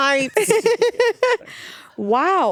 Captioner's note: laughing